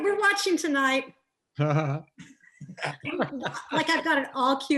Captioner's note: laughs